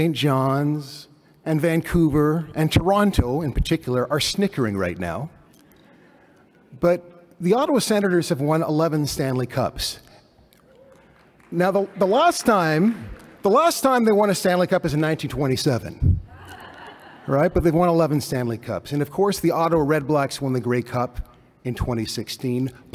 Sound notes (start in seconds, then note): 16.3 laughter